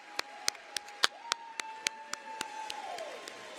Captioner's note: applause